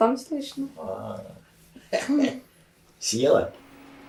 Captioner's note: laughing